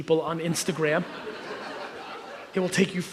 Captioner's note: audience laughs